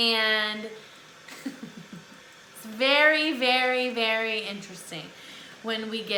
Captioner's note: laughs